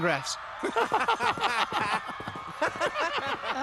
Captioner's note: laughing